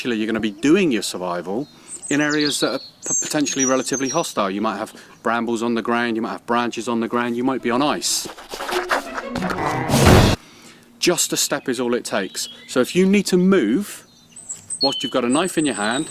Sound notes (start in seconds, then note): 8.3 comedy slipping & falling sounds